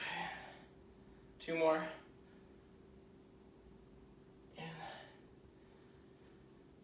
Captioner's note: exhaling